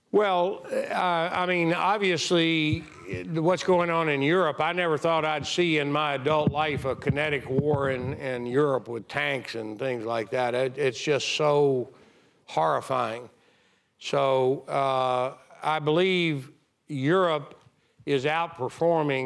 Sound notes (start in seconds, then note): none